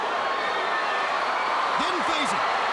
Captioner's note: crowd cheering